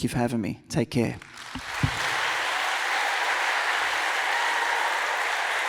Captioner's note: audience applauds and cheers